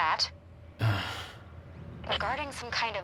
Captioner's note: Jack grunts